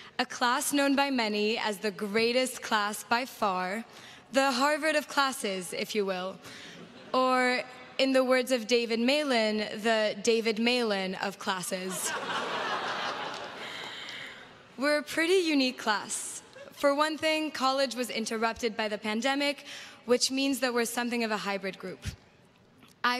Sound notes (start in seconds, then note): 11.8 crowd laughs